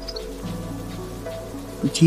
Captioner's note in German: Windgeräusche